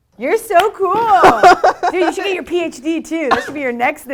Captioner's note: laugh